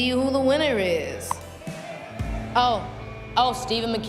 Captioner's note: cheers and applause